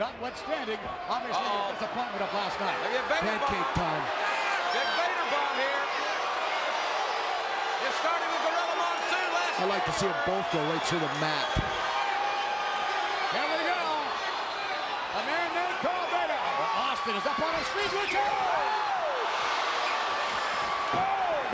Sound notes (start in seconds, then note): 6.2 audience cheers; 12.1 audience cheers